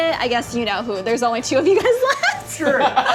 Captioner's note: laughs